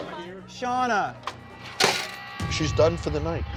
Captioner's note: utensil clatters